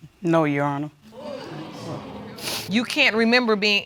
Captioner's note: audience exclaiming